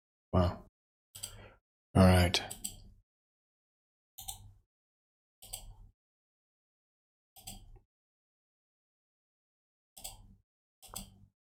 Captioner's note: blank Audio